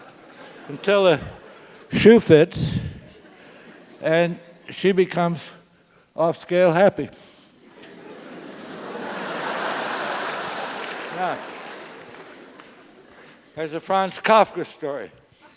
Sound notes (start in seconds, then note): 0.3 laugh; 7.6 laugh; 9.0 applause